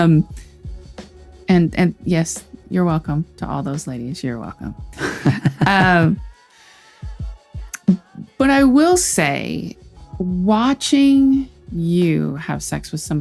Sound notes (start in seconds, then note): 5.0 laughs